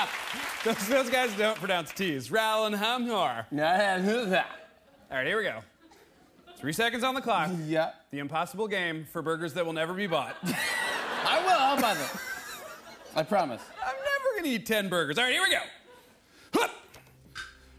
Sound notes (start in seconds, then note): 2.0 surfer voice; 5.7 laughter; 10.0 laughter